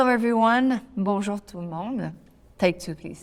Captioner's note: speaking French